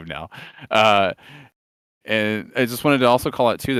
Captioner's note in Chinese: 笑声